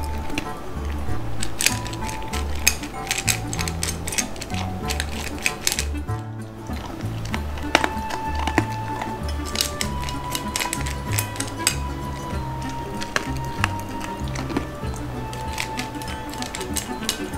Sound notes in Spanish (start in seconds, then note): 6.6 ñam ñam ñam